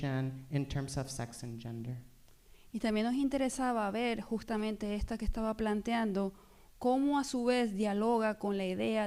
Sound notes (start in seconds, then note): 2.3 speaking spanish